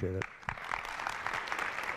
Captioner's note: applause